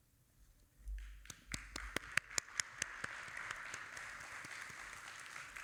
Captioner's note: audience applauding